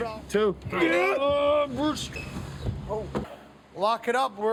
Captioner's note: all grunting